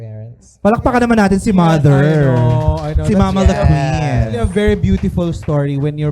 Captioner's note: applause